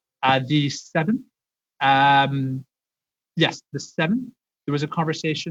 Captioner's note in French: voix de l'interprète